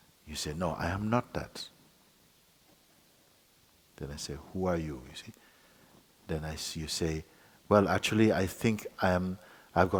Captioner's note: none